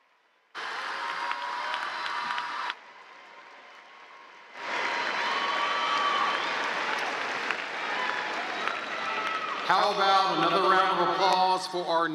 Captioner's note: applause; cheers